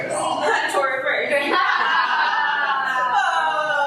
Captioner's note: everyone laughing at the very silly wordplay